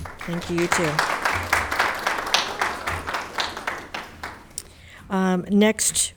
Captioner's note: audience clapping hands